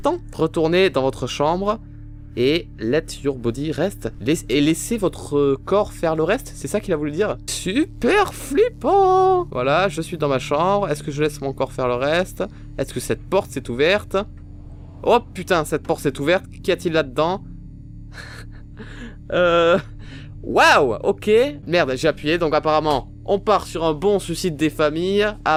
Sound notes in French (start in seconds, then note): 18.2 rires